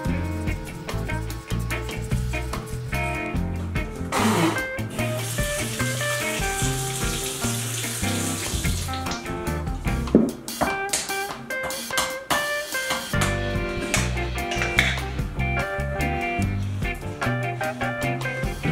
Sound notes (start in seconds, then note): 4.1 spitting; 4.1 water running